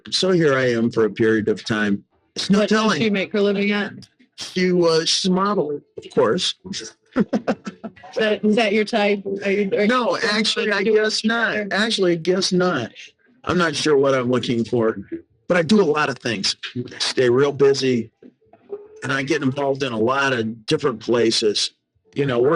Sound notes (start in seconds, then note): 6.0 laughing